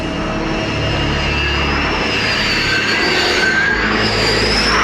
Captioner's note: aircraft whirring